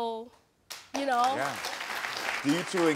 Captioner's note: audience applauding